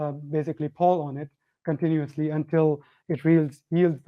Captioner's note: none